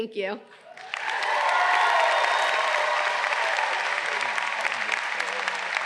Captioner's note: audience cheering and applause